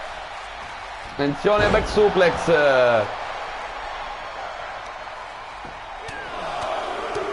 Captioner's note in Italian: Applauso